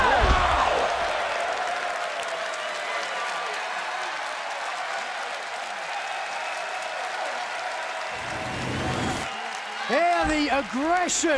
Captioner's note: crowd cheering